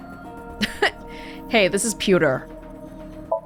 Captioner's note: chuckles